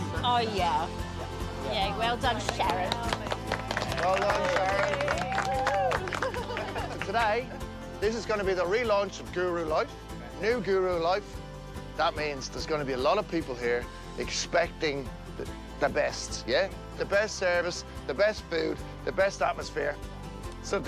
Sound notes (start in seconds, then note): 2.3 applause; 5.3 people cheering; 5.9 laughs